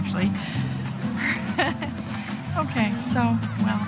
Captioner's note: chuckles lightly